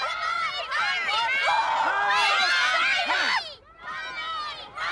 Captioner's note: everybody shouting